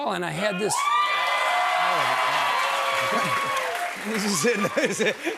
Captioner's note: cheers and applause